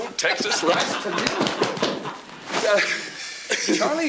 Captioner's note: Charlie laughs